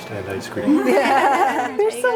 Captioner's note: laughs